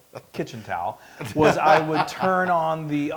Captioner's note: laugh